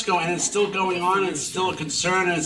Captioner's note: audience laughing